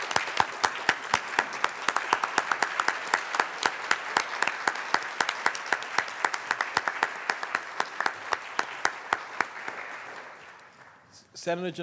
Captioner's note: applause